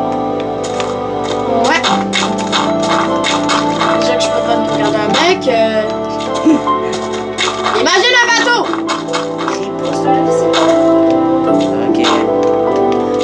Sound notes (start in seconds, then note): 2.1 music and game sound; 6.2 laughs; 9.1 music and sound from the game